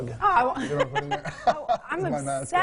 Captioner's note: laughing